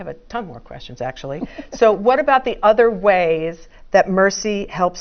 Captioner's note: laugh